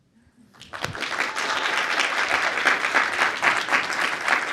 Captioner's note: audience applauding